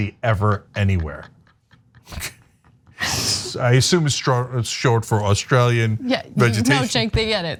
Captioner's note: laugh